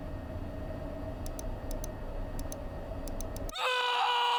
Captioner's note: screaming